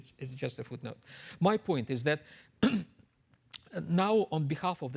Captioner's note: clears throat